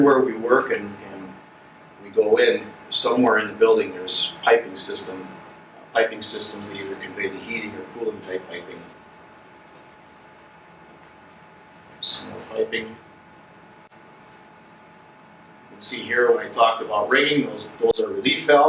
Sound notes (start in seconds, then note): 9.1 silence